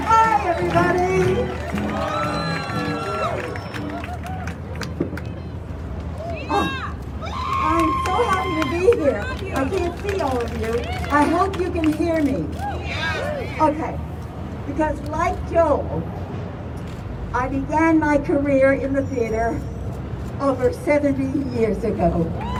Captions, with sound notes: - Hi, everybody! (crowd cheering) I'm so happy to be here, I can't see all of you. I hope you can hear me. (crowd cheering) Okay because like Joel, I began my career in the theatre over 70 years ago.